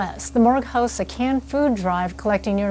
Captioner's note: none